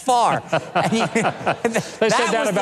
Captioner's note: laughing